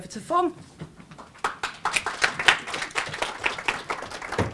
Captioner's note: applause